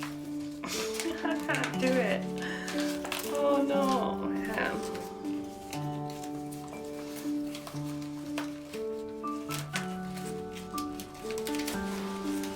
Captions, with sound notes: (chuckling) I can't do it. Oh, no, I can't. (soft piano music)